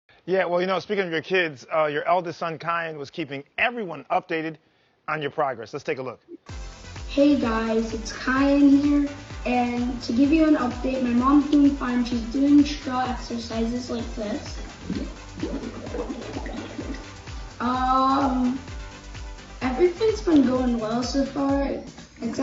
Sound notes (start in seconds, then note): 6.5 upbeat music; 13.1 water bubbles